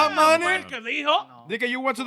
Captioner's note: speaking In Foreign Language